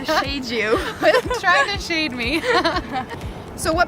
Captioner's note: laughs